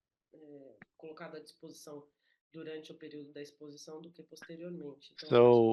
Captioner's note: speaking in Portuguese